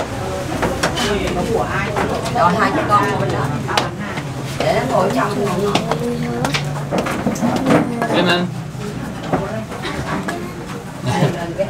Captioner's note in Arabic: الثرثرة الخلفية